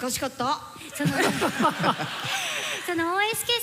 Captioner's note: laughter